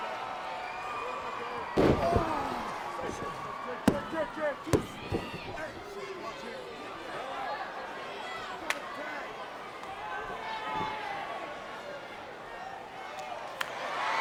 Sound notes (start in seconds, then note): 3.0 Shawn groans